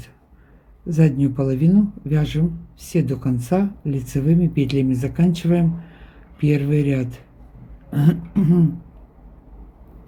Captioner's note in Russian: откашливается